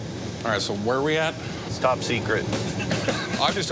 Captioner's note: laughter